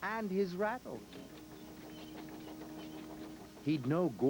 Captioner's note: squeaking and rattling